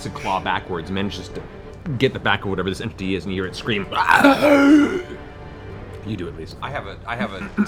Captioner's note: gasping scream